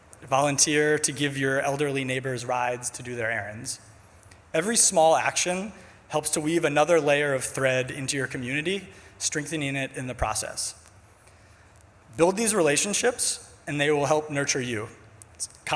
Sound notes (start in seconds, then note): none